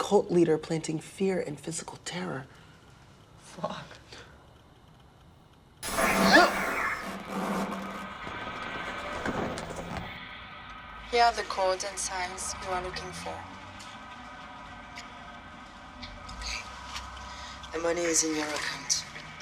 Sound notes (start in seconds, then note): 5.1 gasping